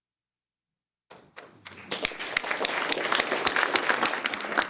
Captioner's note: clapping